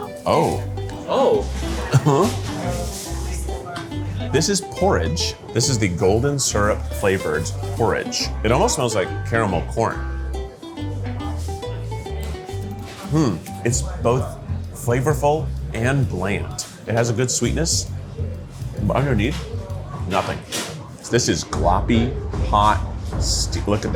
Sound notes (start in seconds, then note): 2.9 gentle upbeat music; 2.9 people chattering